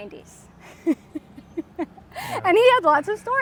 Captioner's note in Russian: оба смеются